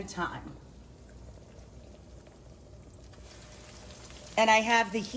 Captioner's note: oil sizzling